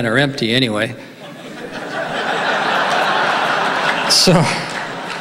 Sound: audience laughing

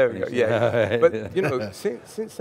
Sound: chuckling

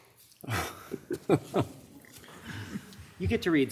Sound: attendee laughing

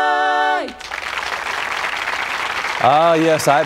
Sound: applause

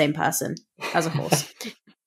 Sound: laugh

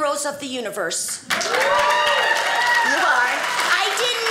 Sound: audience cheers

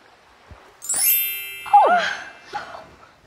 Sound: magic sound

